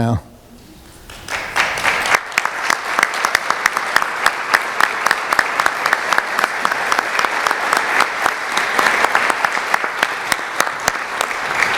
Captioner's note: applause